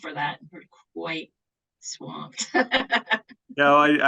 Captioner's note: laughs